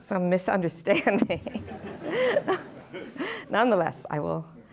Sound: laughing

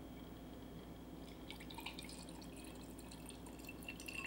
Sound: liquid pouring

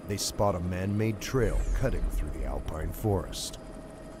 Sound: voiceover

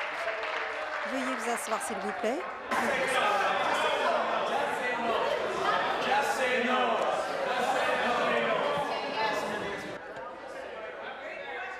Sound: cheers/applause

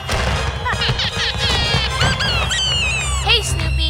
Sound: laughing

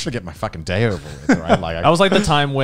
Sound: laughs

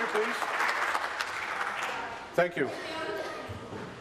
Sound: applause

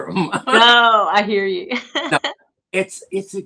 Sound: laughter

